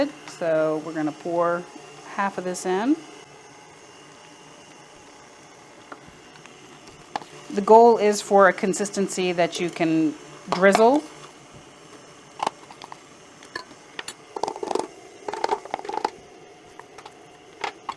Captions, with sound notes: So we're gonna pour half of this in. (mixer whirring) The goal is for a consistency that you can drizzle.